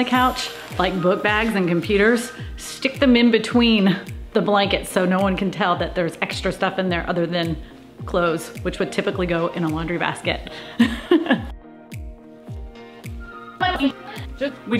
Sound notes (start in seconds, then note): 10.7 laughs; 11.9 upbeat music